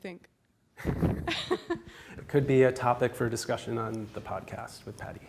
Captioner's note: laughs